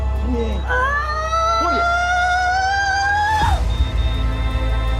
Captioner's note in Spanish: Gritos